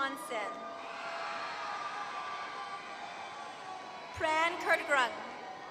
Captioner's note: applause